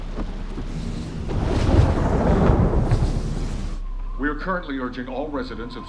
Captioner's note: thunderclap